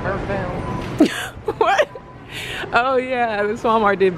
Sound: laughs

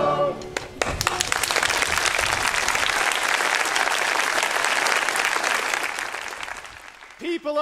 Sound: applause

